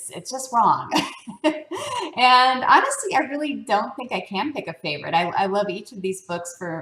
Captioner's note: laugh